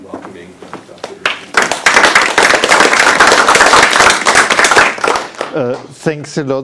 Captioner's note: audience applauding